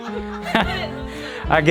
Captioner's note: laughing